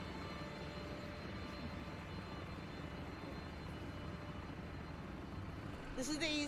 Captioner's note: construction machines motor running